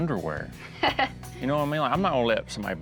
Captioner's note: laughs